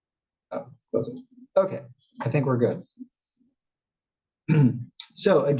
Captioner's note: cough